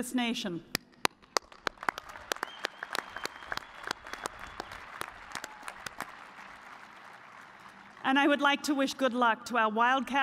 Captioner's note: cheers and applause